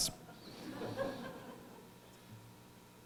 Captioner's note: laughter